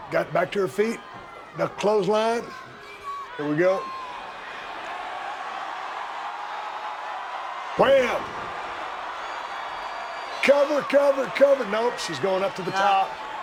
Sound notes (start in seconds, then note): 5.1 audience cheering